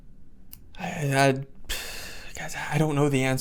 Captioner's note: sighs